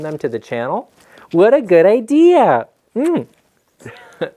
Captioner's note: lips smacking; laughing